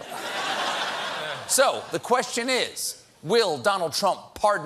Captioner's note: laughter